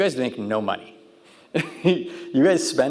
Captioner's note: laughing